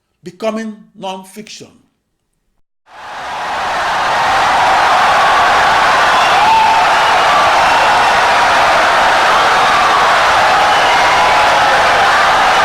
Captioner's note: wild applause and cheering for 17 seconds